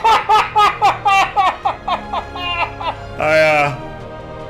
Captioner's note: uncontrolled laughter